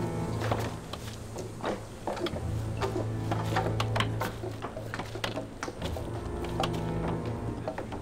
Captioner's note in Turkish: Kütük yontma sesleri